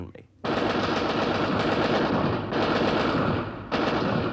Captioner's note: gun firing